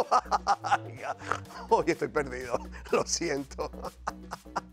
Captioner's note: laugh